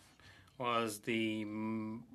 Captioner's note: speaking French